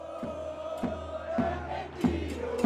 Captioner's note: people chanting